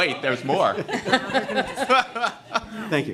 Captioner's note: laughter